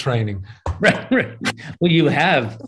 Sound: laughs

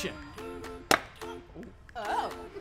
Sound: hand thumping wood

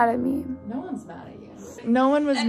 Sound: lady Speaking

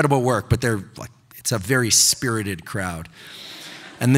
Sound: audience laughing

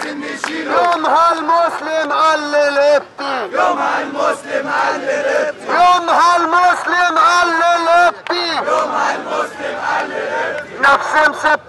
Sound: chants

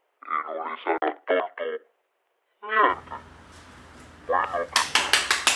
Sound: metallic voice stops, low battery

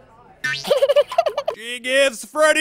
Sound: sobs

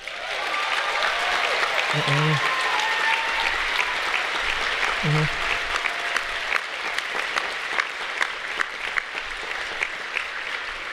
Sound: applause

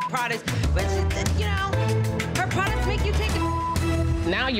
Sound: beep; beep

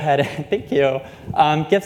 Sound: laughter

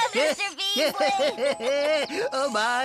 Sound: laughing

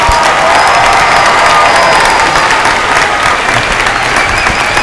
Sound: cheers and applause

